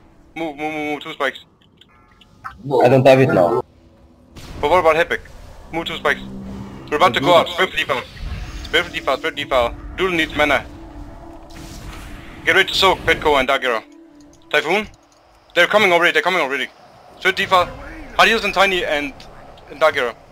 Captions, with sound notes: Move move move 2 spikes I dont have it now (mic closing in) But what about Hepek? Move,2 spikes We're about to go out Spread for Defile Spread for Defile Doodlie neads mana Get ready to soak Petko and Darkerror Typhoon They're comming already Spread for Defile Hard heals on Tajni and Darkerror